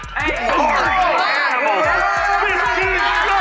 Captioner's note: players cheering